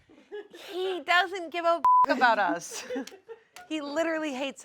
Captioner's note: beep